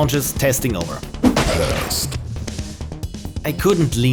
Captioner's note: deep Voice